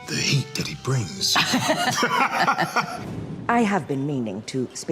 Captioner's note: both laughing